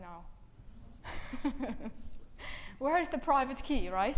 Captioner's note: laughs